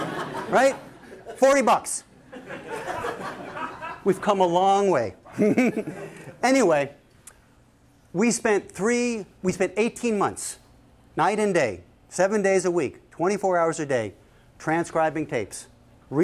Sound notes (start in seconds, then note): 0.0 laughter; 5.2 laughs